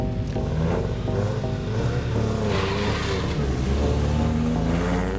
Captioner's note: engine revving